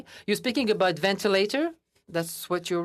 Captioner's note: speaking in French